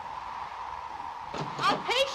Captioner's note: wind blows